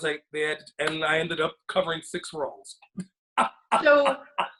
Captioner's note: laughs